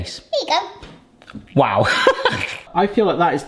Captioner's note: laughing